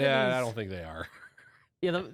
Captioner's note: laughs